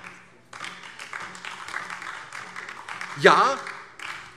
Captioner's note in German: Beifall DIE LINKE